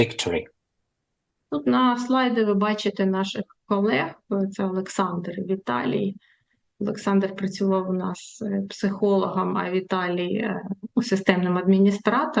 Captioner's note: foreign language